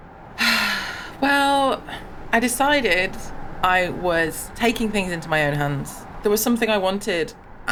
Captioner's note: sighs